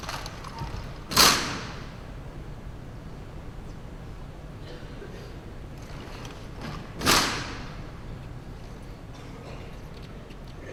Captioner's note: gunfire